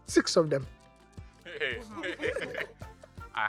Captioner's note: laughs